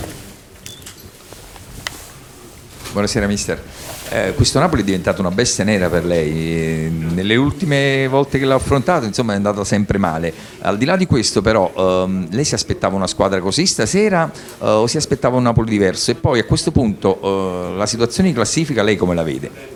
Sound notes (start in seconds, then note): 4.1 italian with no English translation